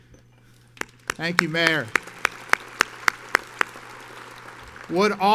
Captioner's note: audience applauds